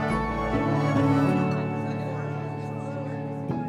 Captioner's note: indistinct chatter